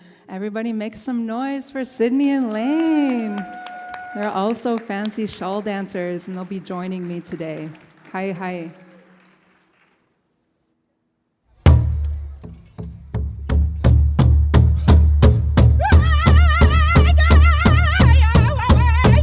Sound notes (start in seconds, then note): 3.1 audience cheers; 8.2 speaks in Native language; 11.7 bright rhythmic music